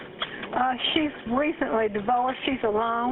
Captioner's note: 911 recording